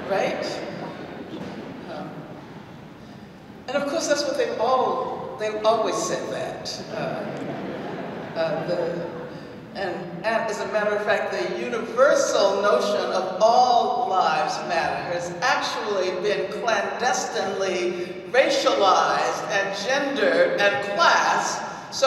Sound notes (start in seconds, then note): 7.2 audience laughs